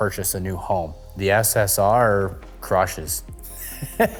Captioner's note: laughing